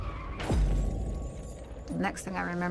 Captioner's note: crash